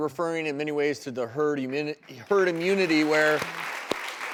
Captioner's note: applause